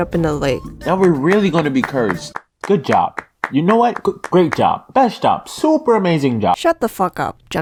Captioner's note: clapping in the background